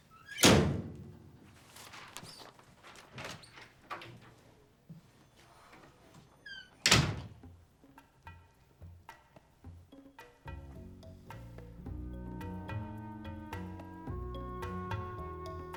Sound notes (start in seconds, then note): 3.4 door opens; 6.4 door closes; 8.2 suspenseful music